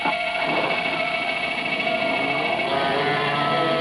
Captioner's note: car starting